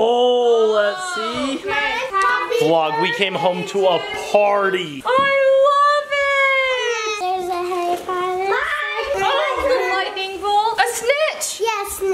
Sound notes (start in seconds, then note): none